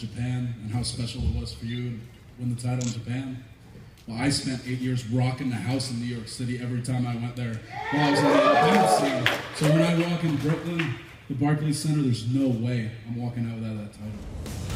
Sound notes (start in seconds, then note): 10.7 cheers & applause